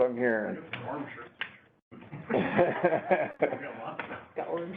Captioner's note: laughing